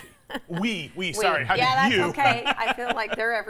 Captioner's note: laughs